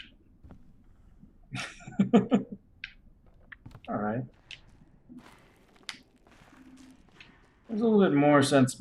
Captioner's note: chuckles